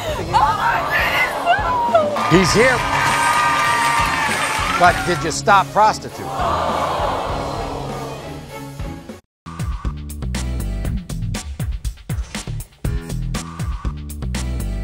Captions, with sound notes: - Oh my goodness, no. - He's here. (cheering) (audience applauding) But did you stop prostituting? (audience screaming)